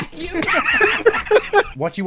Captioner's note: laughter